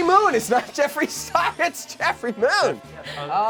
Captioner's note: laughing